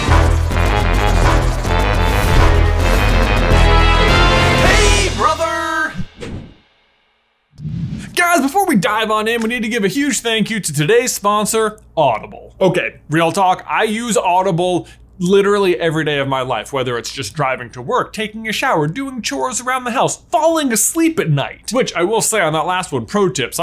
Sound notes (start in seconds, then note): 0.0 upbeat instrumental music; 7.5 image whooshing